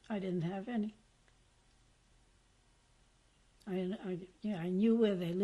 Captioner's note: pauses for 3 seconds